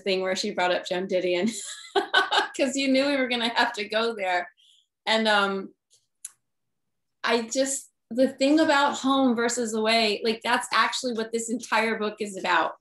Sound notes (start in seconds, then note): 1.7 laughs